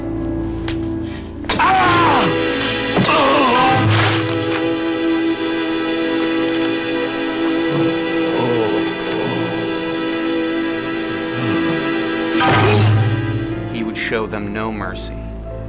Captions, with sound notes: (Shovel thuds) (Sheriff yells) (Sheriff grunts) (Sheriff groaning) (Shovel thuds) (Sheriff grunts) He would show them no mercy.